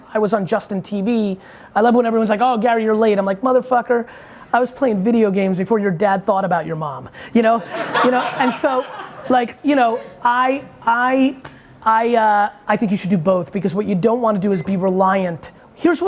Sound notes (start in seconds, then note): 7.6 audience laughing